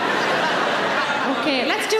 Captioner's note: audience laughing